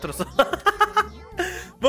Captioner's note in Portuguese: risos